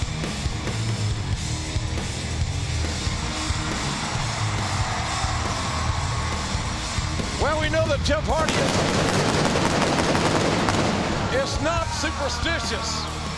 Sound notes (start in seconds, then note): 3.9 audience cheering; 8.1 pyro blasting